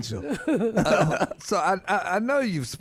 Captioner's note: laughing